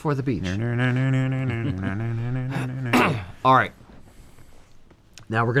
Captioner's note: beach Guitar Mouth Sounds